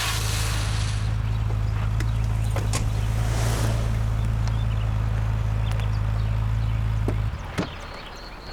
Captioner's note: car engine sounds